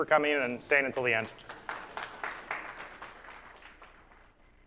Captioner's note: applause